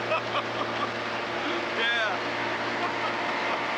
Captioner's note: boat engine; mark laughing